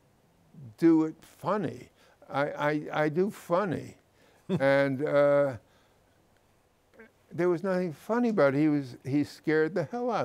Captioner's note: chuckles